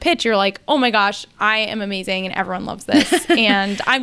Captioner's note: laughs